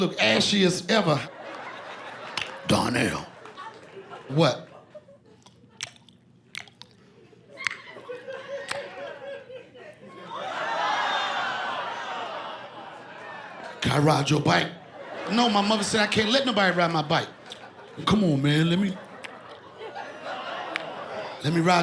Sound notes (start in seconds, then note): 5.2 imitating chewing; 10.7 laughter